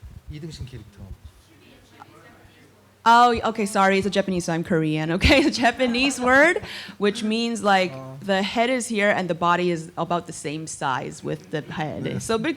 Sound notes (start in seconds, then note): 0.0 japanese; 0.3 speaking korean; 1.2 japanese